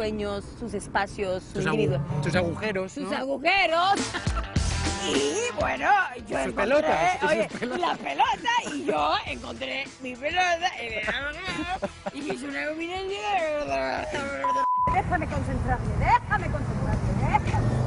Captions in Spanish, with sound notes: NO ME ARREPIENTO, CAUSÉDOLO TORO EN MI FAMILIA, PERO CADA PERSONA TIENE DERECHO A BUSCAR SUS METAS Y SU VIDA. SUS AGUJEROS. (RISAS). PERO BUENO. PERO OYE Y LA PELOTA, Y YO